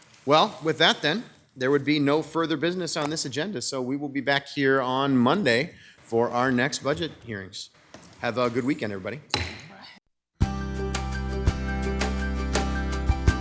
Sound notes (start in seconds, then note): 9.3 gavel bangs; 10.4 bright music